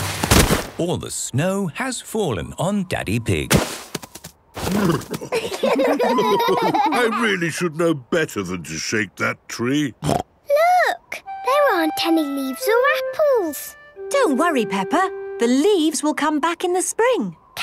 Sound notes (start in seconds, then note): 5.1 laughter; 9.7 snorting